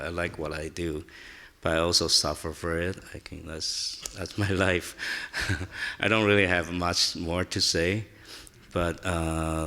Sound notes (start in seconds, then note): 5.3 chuckles